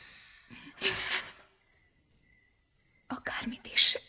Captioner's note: sighs